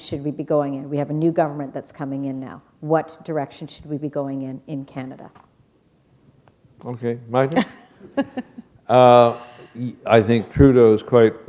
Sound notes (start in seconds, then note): 7.6 chuckle